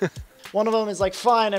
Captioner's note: laughs